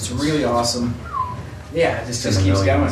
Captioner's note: whistles